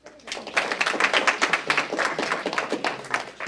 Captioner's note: applause